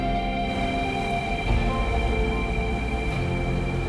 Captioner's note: water splashing